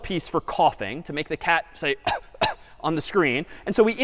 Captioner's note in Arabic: السعال